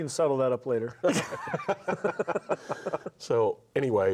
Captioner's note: everyone laughs